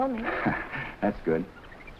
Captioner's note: Gorman chuckling